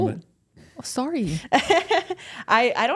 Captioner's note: Bayley chuckles